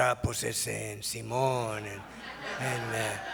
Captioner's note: foreign language spoken